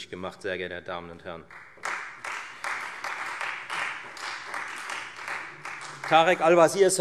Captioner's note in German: Beifall Freie Demokraten und vereinzelt SPD